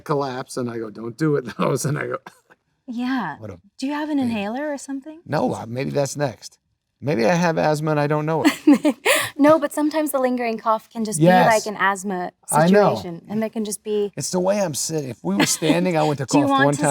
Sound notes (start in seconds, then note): 3.4 laughs